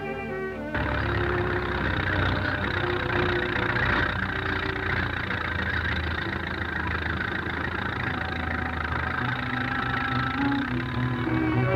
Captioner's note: tractor engine sputters